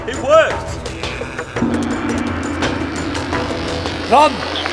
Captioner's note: gong sounds, care bots approach